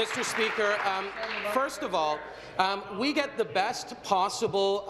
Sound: applause

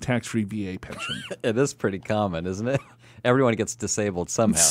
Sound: laughs

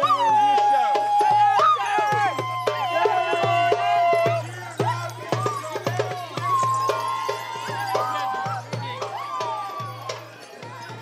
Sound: loud whooping and drums

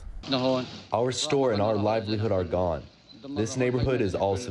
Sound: through translator

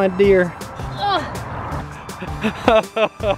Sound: grunting; laughing

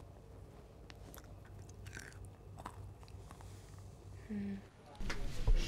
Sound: crunch

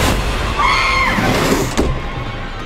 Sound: scream

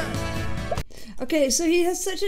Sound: audio pops

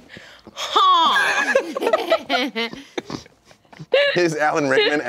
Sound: laughing

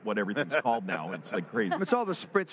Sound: all laugh

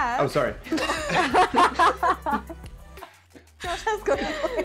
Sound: all laughing

